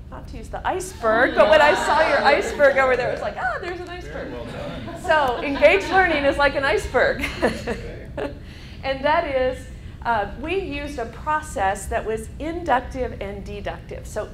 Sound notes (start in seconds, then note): 0.9 students laughing; 8.3 laughing